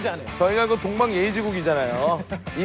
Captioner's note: haha